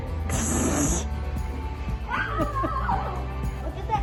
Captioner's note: laughs